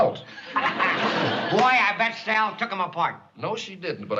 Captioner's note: laughs